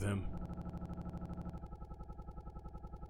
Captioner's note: audio stutters